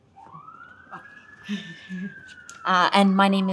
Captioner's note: chuckles